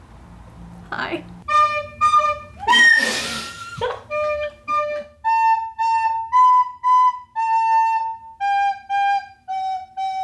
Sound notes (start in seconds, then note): 1.1 recorder whistling; 3.2 friends laughing; 4.8 recorder whistling